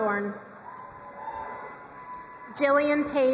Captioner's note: crowd cheering and applauding